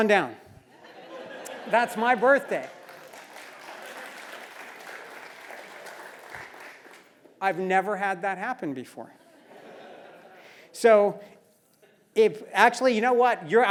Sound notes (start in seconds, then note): 0.9 laugh; 2.0 applause; 9.3 laugh